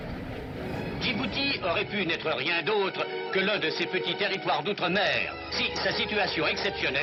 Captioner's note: announcer speaking foreign language